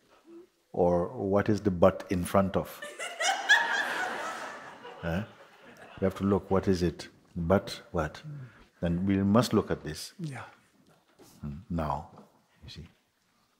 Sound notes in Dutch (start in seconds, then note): 2.8 Meer gelach